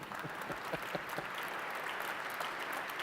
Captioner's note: applause